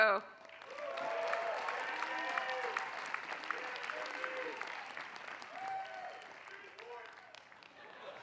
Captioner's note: applause